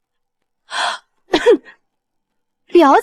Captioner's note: cough